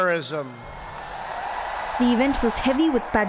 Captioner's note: cheering and applause